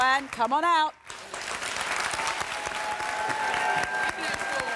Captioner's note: clapping